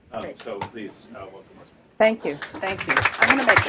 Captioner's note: clapping